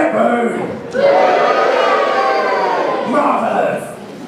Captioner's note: boos